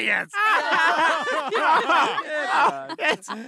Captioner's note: all laughing